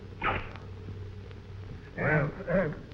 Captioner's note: stove hissing